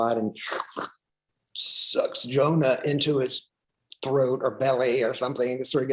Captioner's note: slurps